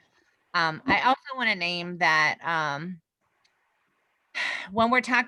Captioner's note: sighs